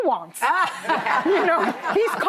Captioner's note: laughing